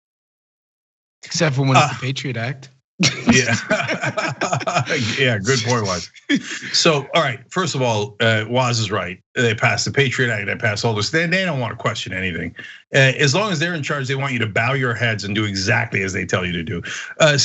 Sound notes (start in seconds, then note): 3.0 laugh